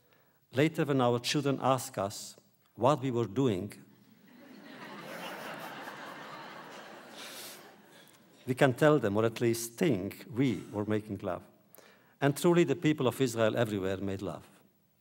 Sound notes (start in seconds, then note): 4.2 audience laughter